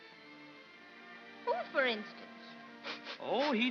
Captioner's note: sniffling